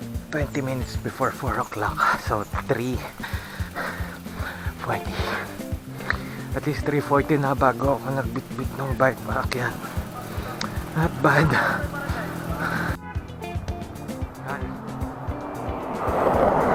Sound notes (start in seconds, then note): 3.0 panting